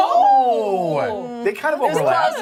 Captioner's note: laughter